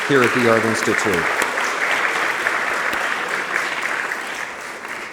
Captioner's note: audience clapping